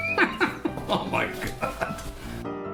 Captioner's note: laughs